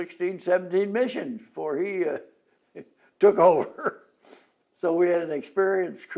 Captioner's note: laughs